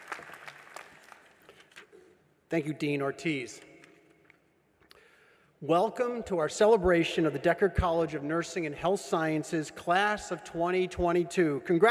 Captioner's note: applause